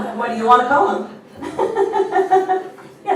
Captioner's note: laughs